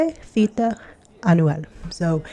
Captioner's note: speaking in foreign language